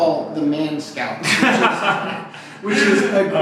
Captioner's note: laughs uncomfortably